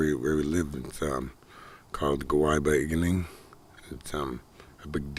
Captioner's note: spelling unkown - Ojibwe language